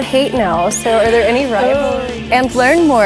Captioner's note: gasps